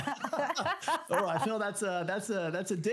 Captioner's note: both laugh